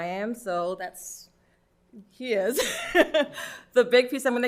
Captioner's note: laughs